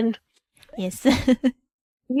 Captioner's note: laughs